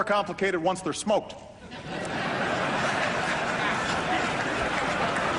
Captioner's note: laughter